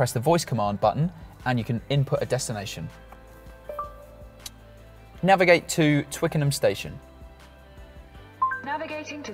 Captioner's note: ding-dong